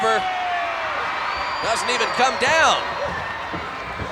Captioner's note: applause